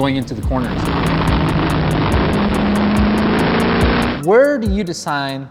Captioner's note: engine revving